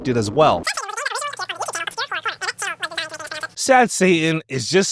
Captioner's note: chattering